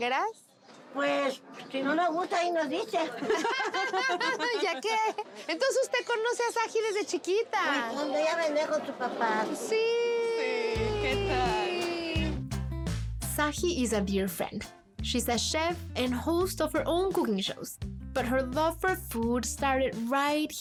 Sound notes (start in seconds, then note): 2.7 laughs